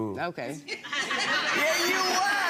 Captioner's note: audience laughs